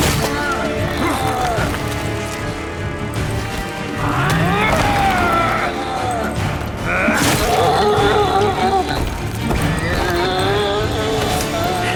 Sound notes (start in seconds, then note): 0.1 groan; 5.2 yells; 6.8 grunt; 8.6 yelps; 9.6 wailing